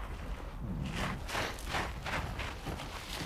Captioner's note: rustling, trickling